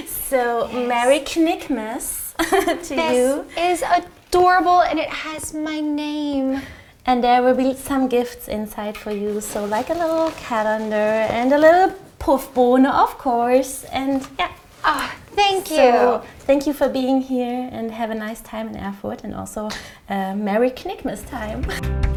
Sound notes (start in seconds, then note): 2.4 chuckles; 12.1 speaking German; 21.7 upbeat music